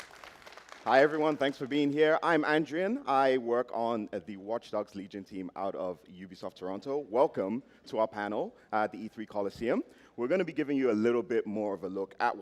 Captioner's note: applause